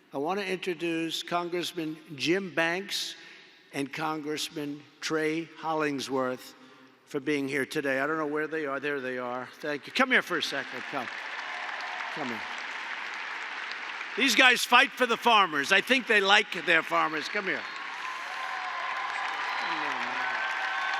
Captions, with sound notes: I want to introduce Congressman Jim Banks and Congressman Trey Hollingsworth for being here today. I don’t know where they are. There they are. Thank you. (Applause.) Come here for a second. Come. These guys fight for the farmers. I think they like their farmers. (Applause.) Come here.